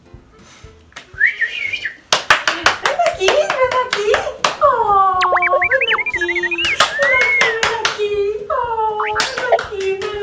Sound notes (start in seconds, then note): 1.1 whistles